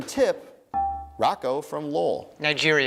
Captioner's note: dinging